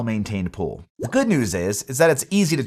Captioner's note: graphic pops